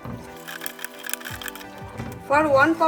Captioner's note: pan clacking